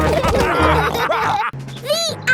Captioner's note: all laughing